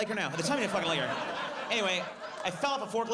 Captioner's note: audience laughs